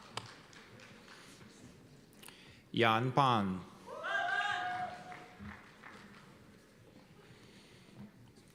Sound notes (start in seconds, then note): 3.9 cheers and applause